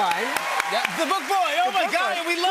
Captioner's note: cheers and applause